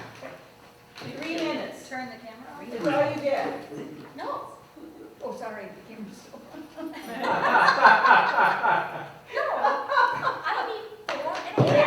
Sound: laughter

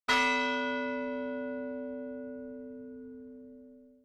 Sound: bell tolling

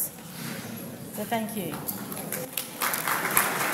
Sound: people chatting; audience applauds

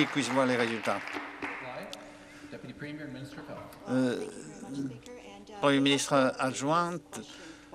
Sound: applause

